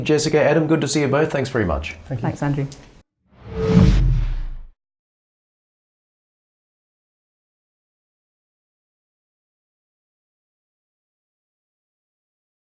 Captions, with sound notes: Jessica, Adam, good to see you both. Thanks very much. - Thank you. - Thanks, Andrew. (whoosh)